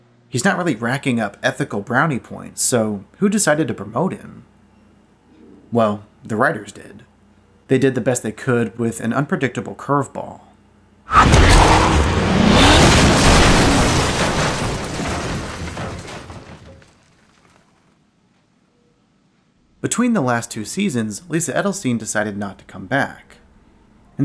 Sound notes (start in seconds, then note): 11.1 revving; 11.1 crash